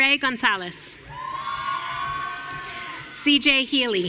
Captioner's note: audience cheering